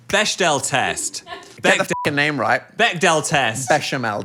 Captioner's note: beep